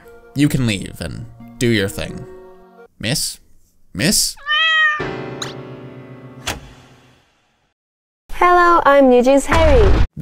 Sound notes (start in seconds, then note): 4.4 meowww